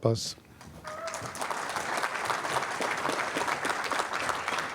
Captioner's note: applause